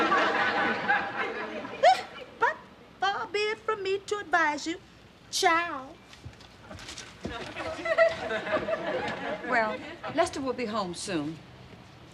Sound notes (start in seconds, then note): 1.2 scoffs